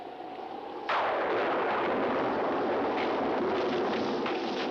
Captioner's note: thunder crashing